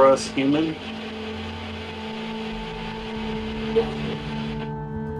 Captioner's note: static crackling